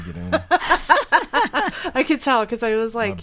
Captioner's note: laughing